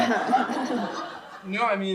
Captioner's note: laughter